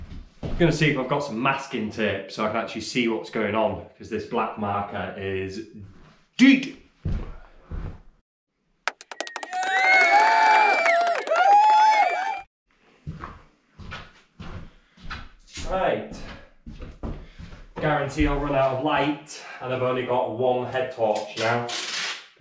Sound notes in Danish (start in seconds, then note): 8.8 Bifald